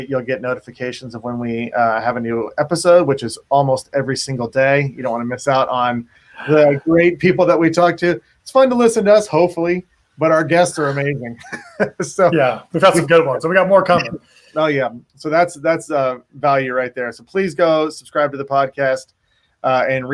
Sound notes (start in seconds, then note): 10.6 laughs